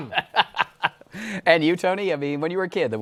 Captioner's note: laughs